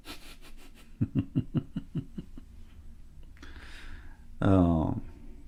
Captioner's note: Ketawa